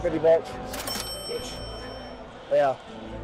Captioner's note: registry chiming; dramatic music continues